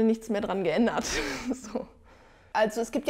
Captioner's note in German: lacht